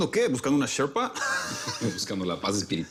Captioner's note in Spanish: Risas